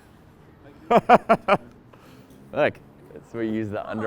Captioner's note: laughs